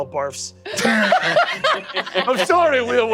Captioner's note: everyone laughs